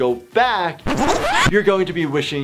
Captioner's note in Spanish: imagen chirriante